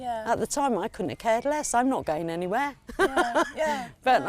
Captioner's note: laughs